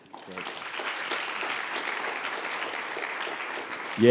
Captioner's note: applause